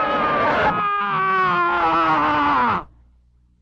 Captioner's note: Pepe screaming